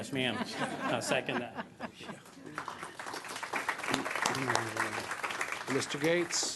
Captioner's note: clapping